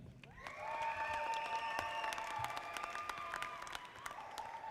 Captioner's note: audience applauding